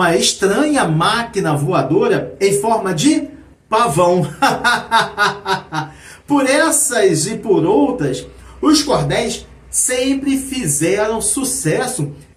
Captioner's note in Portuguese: risadas